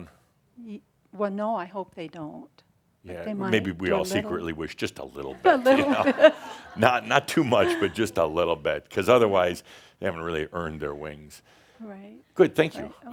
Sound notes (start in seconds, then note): 7.4 some chuckles